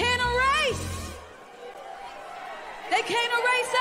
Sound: cheering

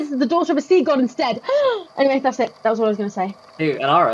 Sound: gasps

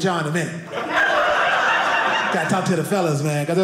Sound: audience laughing

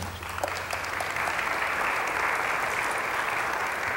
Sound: applause

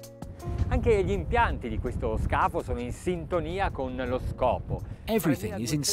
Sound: speaking in foreign language

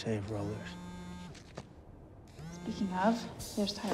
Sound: phone buzzes

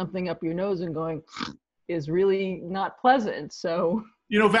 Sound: snorting sound

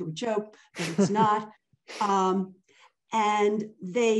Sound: laughing

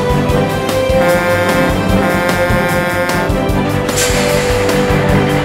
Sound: truck honking

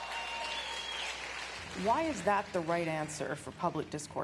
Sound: applause

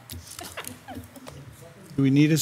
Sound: member softly giggling

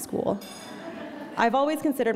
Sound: audience laughing

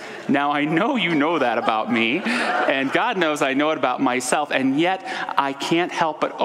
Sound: audience laughter

